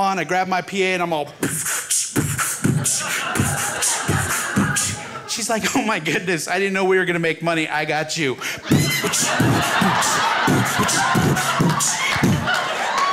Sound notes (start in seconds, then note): 1.3 beat boxes; 8.4 crowd laughs; 8.4 beat boxes